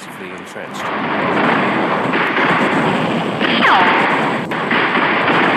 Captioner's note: bombs exploding